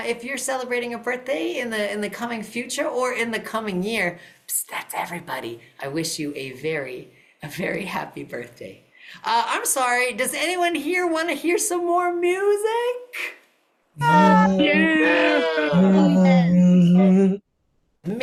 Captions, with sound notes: if you're celebrating a birthday in the coming future or in the coming year, that's everybody--i wish you very very happy birthday I'm sorry, does anyone here want to hear some more music? [CHEERING]